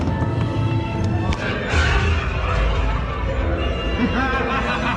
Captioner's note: thunder; cackles menacingly